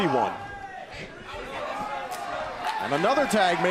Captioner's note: crowd cheering